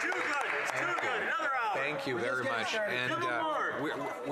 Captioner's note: applause; cheering and Applause